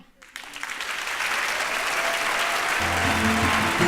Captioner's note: applause